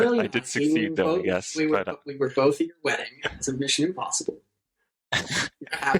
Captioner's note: laughter